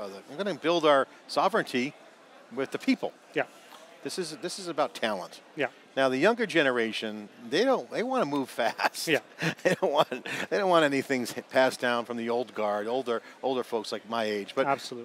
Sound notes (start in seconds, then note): 8.7 laughing